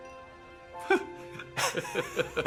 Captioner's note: laughing